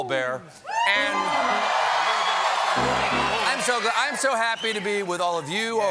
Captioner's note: cheers and applause; piano riff